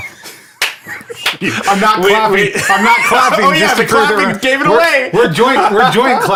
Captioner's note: clapping sound